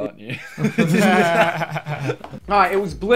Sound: everyone laughing

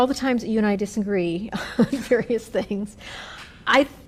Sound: laughter

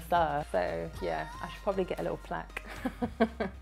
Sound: laughs

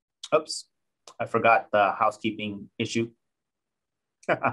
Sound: laughing

